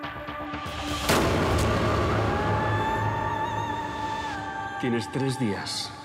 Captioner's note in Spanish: detonación de disparo